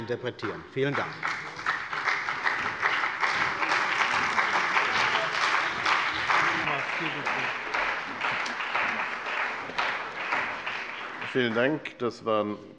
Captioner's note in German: Beifall bei der CDU und dem BÜNDNIS 90/DIE GRÜNEN